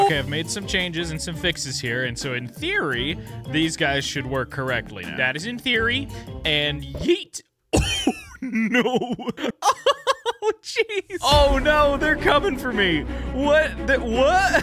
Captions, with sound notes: Okay, I've made some changes and some fixes here, and so in theory, these guys should work correctly. That is in theory, and yeet. (laughing) No. (laughing) Jeez. Oh no, they're coming for me. What, what?